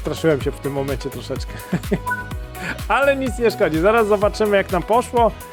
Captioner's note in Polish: śmiech